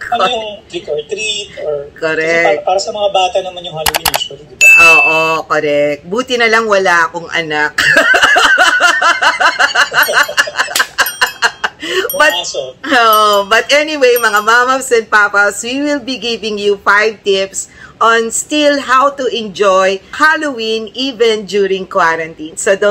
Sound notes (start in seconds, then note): 10.8 laughter